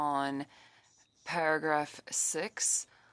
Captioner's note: speaking French